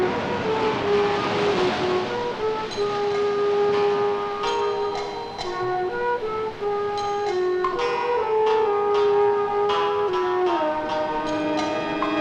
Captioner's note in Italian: campana